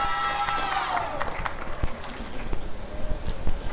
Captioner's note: applause and cheering